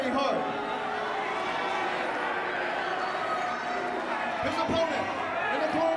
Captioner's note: fans cheering